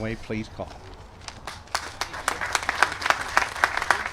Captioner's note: applause